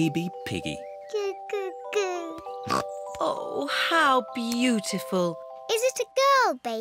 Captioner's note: snorts